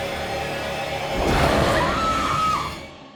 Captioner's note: snarling; she screams